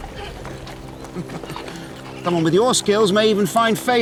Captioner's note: chuckles